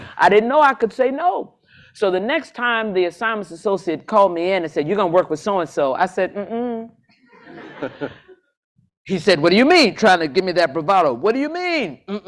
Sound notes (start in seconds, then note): 7.2 laughter